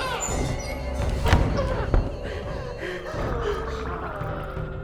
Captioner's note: door thuds; Claire gasps; doll mumbling eerily